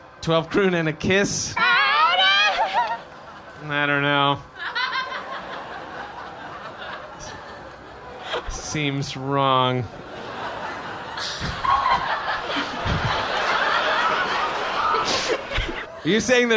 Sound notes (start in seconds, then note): 5.1 agreeing alien gibberish; 9.9 laughter